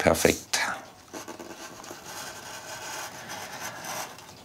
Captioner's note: soft scratching noise